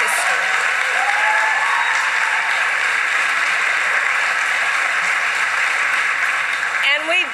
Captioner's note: applause